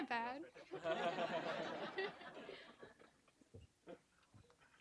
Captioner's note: audience laughing